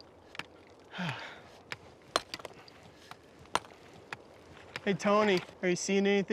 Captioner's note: sighs, hammers